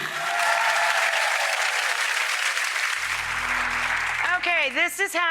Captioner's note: audience cheering and clapping